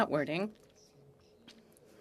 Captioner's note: speaking French